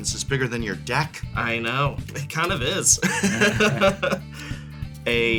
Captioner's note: laughs; chuckles